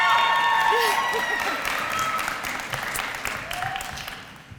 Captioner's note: applause